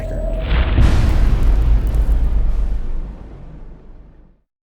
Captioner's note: impact